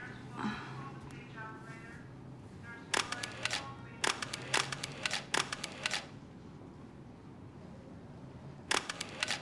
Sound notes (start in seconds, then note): 0.2 groans; 2.6 announcement on the p.a; 4.0 camera shutter clicks